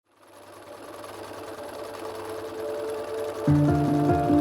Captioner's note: sewing machine rattles; inspirational music begins